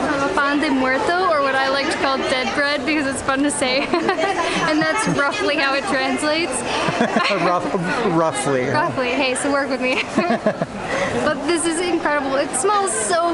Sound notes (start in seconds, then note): 6.7 laughter